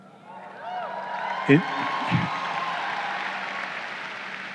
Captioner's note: crowd cheering